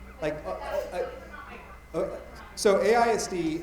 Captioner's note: attendee talking quietly